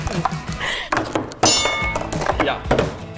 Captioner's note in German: Glockengong